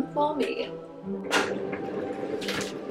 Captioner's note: kettle boiling